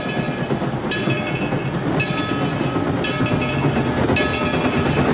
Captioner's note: train chugs; bell clangs